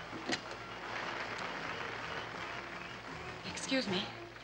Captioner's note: audience applauding